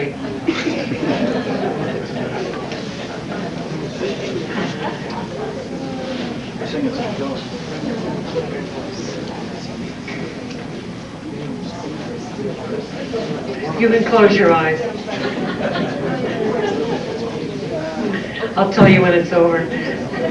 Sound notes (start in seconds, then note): 0.4 laughter; 4.1 chatter; 15.0 laughter